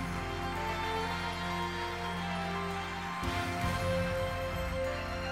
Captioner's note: audience applauding